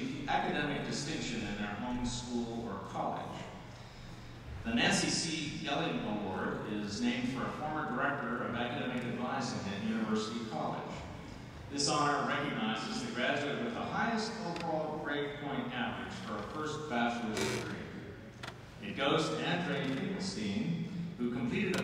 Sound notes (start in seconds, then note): none